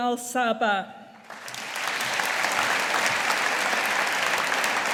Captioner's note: audience applauding